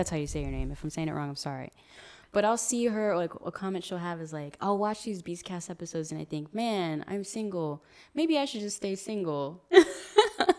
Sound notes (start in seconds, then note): 9.4 laughs